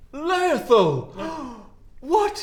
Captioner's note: gasp